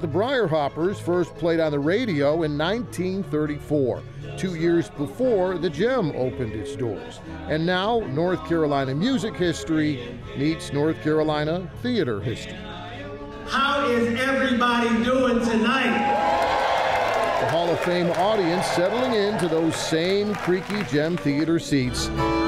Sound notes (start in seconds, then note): 15.5 crowd cheering; 22.3 upbeat music